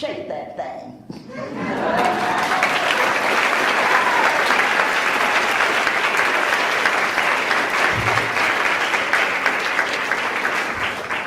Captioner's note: laughs; laughs/Cheers; applauds